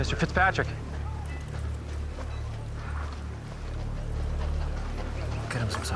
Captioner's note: men murmuring